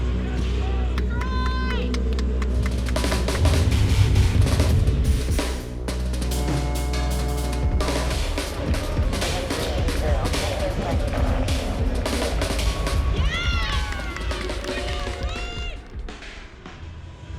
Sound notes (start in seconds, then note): 0.4 spectator claps